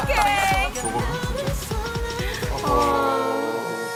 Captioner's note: crying together